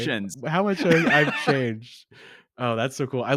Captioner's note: laughs